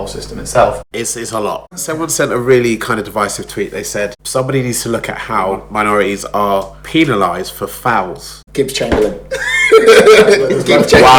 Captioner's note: laughs